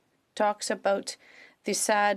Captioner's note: speaking French